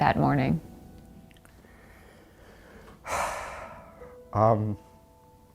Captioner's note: exhales